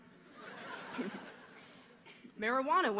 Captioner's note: audience laughing